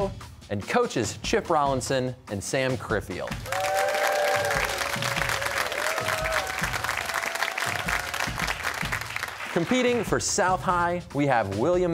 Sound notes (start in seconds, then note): 3.4 cheers and applause